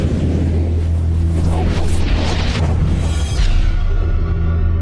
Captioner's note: logo whooshing